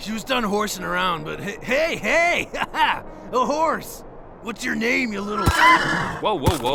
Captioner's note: yelps